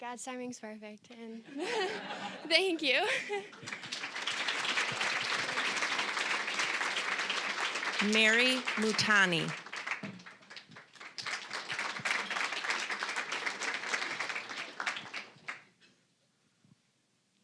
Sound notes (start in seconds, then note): 1.5 all laughing; 4.2 applause; 10.9 applause